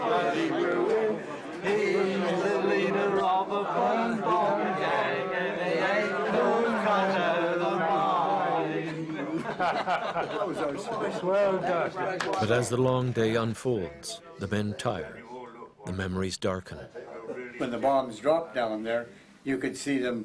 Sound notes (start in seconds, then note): 8.8 laughter; 11.2 voiceover